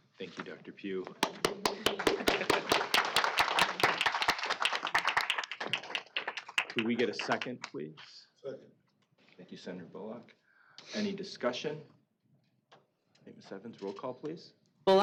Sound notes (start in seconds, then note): 1.2 applause